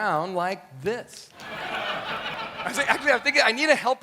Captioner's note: audience laughs